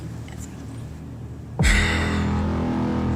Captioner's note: Rachel hisses